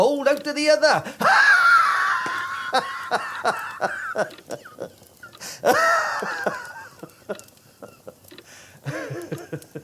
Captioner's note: laughing hysterically